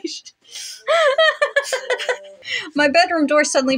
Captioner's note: laugh